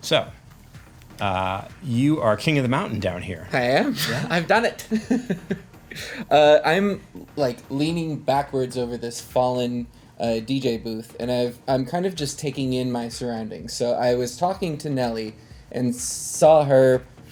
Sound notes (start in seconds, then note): 3.6 laughs